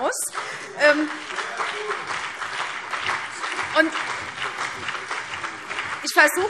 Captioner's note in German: Beifall CDU und BÜNDNIS 90/DIE GRÜNEN